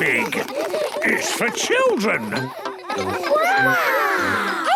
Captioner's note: children laughing